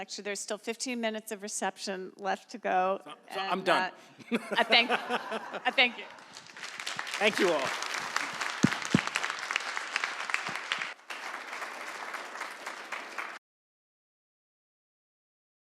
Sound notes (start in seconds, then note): 3.0 all laughing; 6.7 audience applauds; 8.7 applauding continues